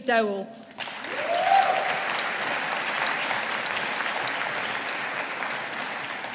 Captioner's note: audience applauding